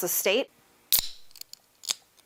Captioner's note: nat pop - can opening :02